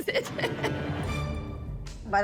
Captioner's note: laughing